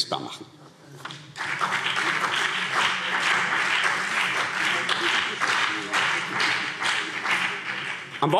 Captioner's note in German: Beifall